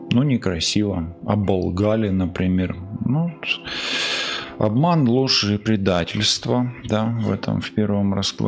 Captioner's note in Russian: тяжело вздыхает